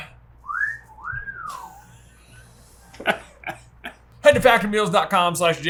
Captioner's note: wolf whistles; chuckles